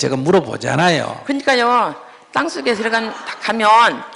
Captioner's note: audience Laughter